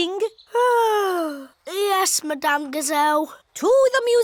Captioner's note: yawns